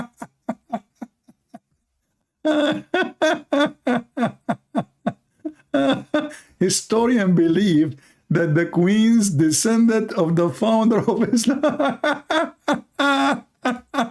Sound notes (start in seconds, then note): 2.6 Ketawa